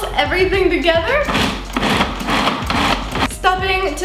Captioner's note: machine pulses